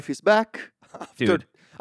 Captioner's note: laughs